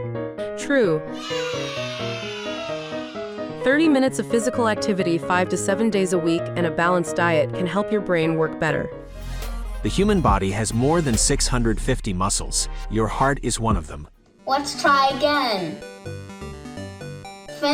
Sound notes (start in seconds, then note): 1.1 children cheering; 14.4 fun music